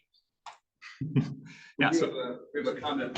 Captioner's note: chuckling